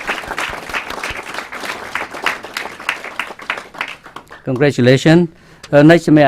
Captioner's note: clapping